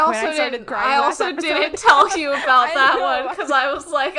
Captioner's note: laughs